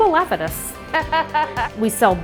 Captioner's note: laughing